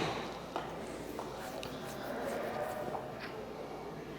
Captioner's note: golf club hits ball